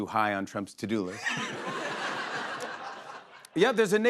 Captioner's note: laughter